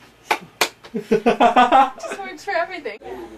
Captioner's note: laughing